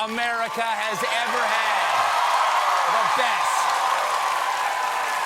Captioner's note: cheers and applause